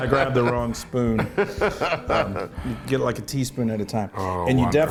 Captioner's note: laugh